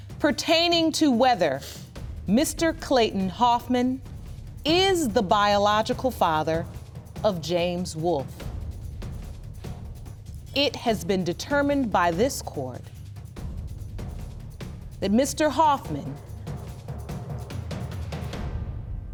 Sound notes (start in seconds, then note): none